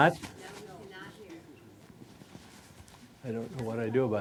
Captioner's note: voiceover